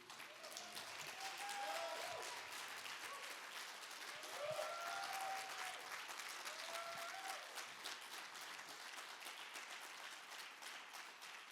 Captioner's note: applause